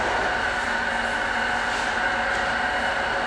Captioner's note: construction noise